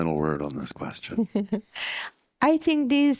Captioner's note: laughs